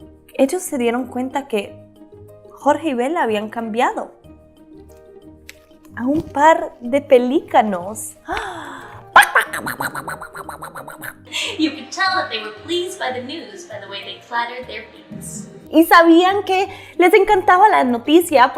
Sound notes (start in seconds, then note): 9.2 squawking